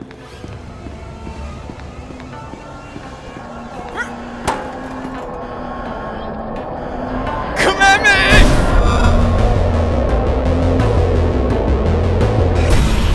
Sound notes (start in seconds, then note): 0.1 screaming in the distance coming closer; 4.4 clattering